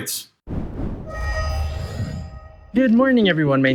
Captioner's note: whooshing